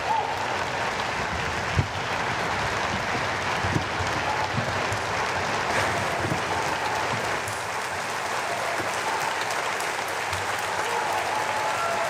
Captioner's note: applause